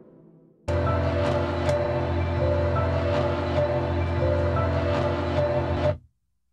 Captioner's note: locking groove